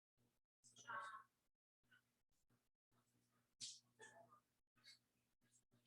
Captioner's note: people chattering indistinctly